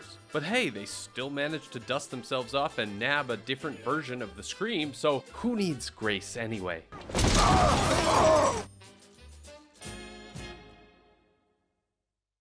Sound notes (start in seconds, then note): 7.6 shouting